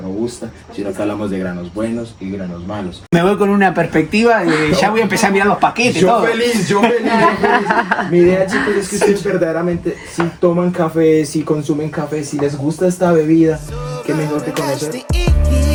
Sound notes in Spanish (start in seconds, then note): 5.8 risas